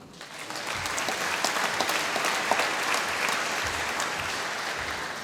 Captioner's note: applause